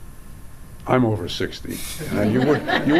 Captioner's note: audience laughs